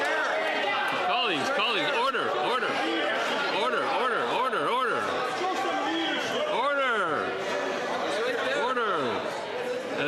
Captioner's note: some Applause